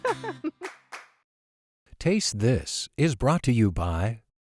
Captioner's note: laughing